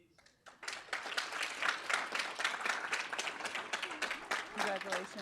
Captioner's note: audience applauding